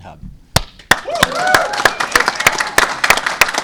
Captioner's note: cheers and applause